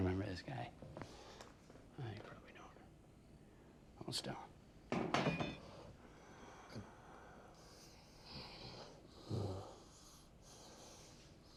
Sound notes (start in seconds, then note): 5.0 metal clunks; 9.0 Ben groans